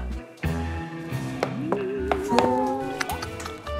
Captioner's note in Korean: 뚝딱 뚝딱